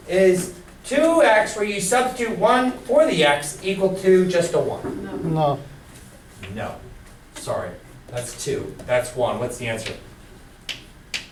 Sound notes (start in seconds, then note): 5.4 voiceover